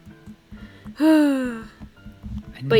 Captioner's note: sighs